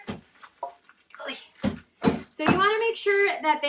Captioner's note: thump thump thump